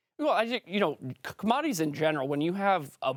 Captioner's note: French